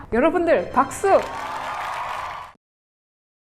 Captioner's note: clap clap clap